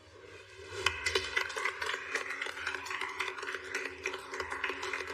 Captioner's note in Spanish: Aplausos